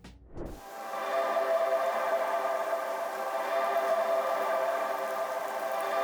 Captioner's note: air whooshes; soft music